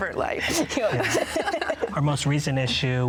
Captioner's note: laugh